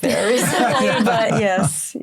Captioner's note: laughter